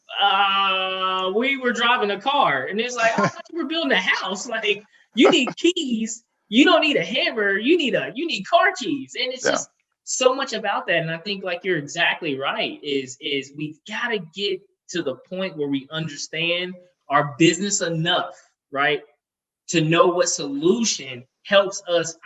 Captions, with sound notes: uh, we were driving a car and it's like, (chuckles) I thought we're building a house, like you need keys, you don't need a hammer, you need car keys. And it's just. - Yeah. - So much about that, and I think like, you're exactly right, is we've gotta get to the point where we understand our business enough, right, to know what solution helps us,